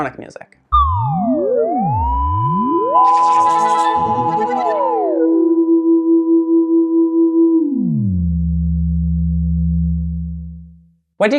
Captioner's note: trippy sounds